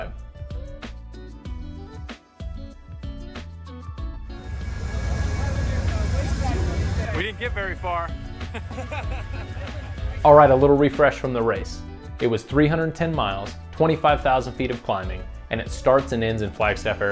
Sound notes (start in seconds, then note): 4.3 train Noise; 8.4 laughing